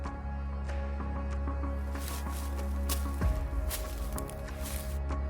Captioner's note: suspenseful music continues; leaves rustling